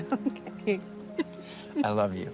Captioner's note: laughing